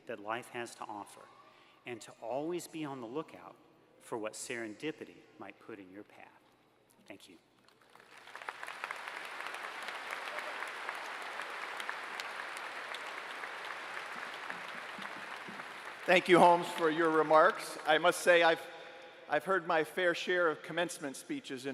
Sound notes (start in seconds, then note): 7.6 applause